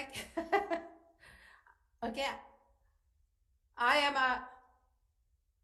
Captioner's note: laughs